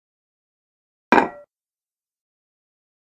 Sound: sound of bowl

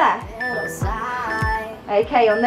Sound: alarm beeping

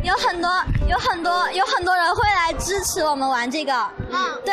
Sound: in mandarin

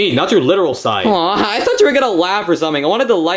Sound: sobs

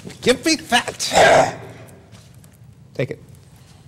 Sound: snarls

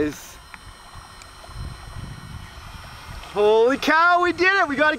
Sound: motor buzzing; water lapping

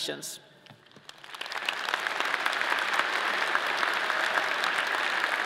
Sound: audience applauding

